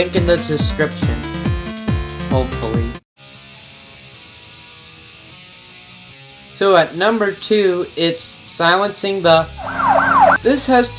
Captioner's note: cop siren